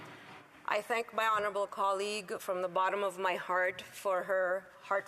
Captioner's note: speaking French